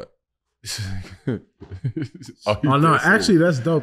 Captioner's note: laughing